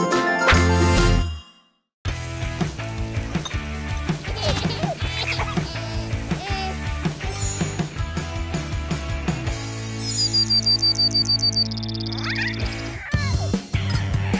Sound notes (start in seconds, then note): 2.0 rock music; 4.3 crying; 10.2 birds chirping; 12.2 cooing